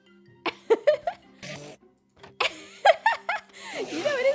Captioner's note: laughs